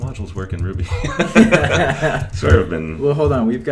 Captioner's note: laughter